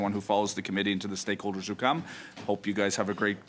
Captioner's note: speaking French